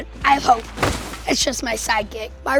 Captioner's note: bang